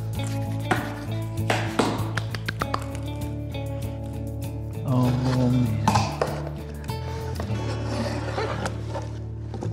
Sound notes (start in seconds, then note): 1.5 claps